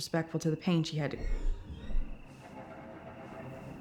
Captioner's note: object scraping; suspenseful music